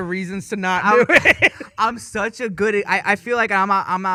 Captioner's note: laughing